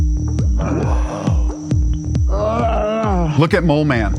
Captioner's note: Mole Man grunting